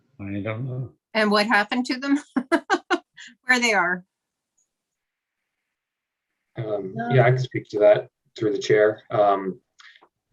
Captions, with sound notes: - I don't know. - And what happened to them where they are? (laughing) - Yeah, I can speak to that through the chair.